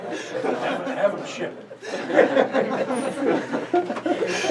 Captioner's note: male Voice